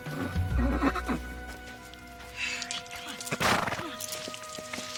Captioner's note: horse neighing